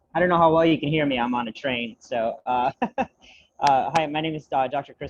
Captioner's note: laughs